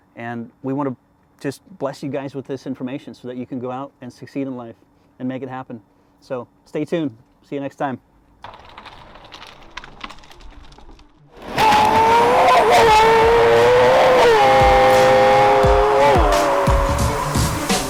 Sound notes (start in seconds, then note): 11.4 engine revving; 15.1 upbeat music